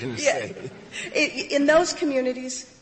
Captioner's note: laughter